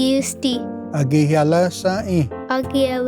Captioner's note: repeats third word in Cherokee